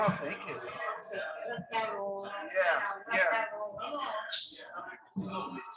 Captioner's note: people chattering indistinctly